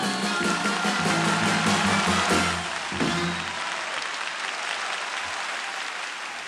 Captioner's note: cheering and applause